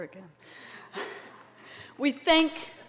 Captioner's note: laughter